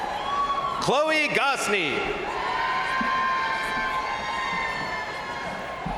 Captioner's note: crowd cheering